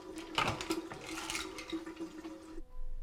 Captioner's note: pills clattering in bottles